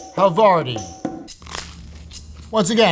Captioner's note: upbeat music; sandwich rustling; upbeat music